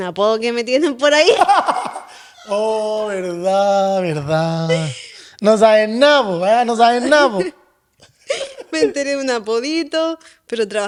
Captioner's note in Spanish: risas